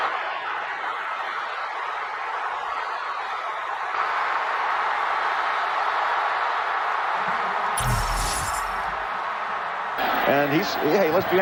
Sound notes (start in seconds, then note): 3.2 crowd noise and cheering